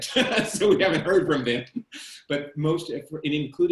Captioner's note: chuckles